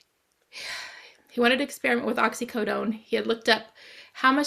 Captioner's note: exhales